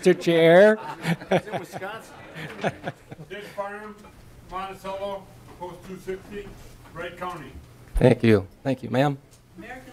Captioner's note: laughing